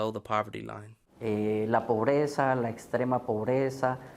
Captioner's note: speaking Spanish